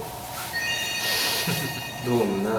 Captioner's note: chuckles